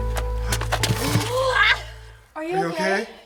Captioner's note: gasps